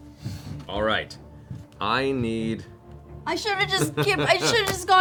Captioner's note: laughs